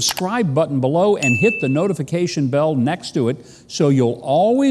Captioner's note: bell chimes